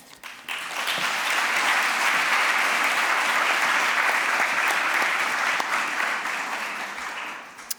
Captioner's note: applause